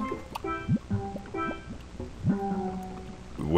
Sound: fondue bubbling

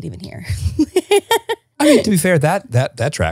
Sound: laughing

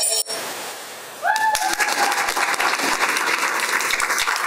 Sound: applause

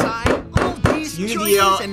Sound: bangs on table; bell dings

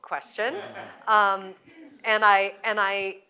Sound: laughter

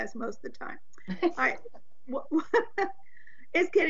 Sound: members laughing

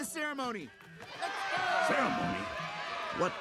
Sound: cheering

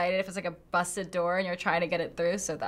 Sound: none

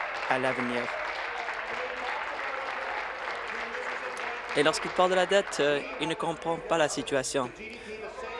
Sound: applause

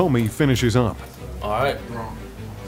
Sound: mouse clicks

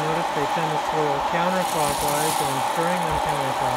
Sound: beans rattling

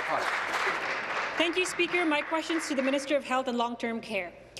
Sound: applause

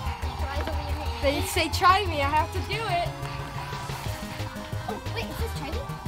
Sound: sound effects

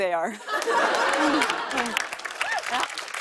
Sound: laughter and applause

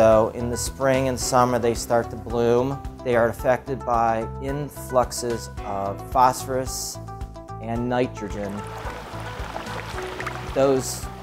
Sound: waves

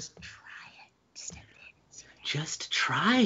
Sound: whispering

